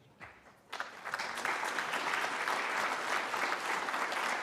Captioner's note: applause